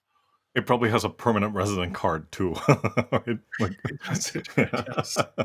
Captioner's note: laugh